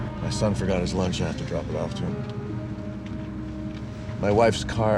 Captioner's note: sighs